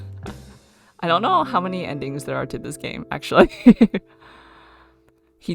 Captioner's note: laughs